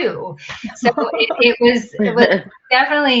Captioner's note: chuckling